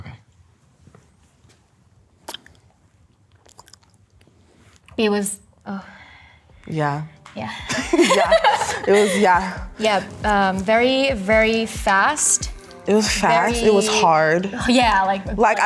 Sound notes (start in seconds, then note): 2.2 lips smacking